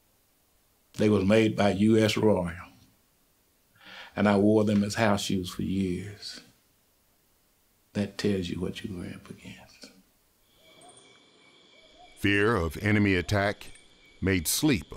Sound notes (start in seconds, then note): 10.9 insects chirping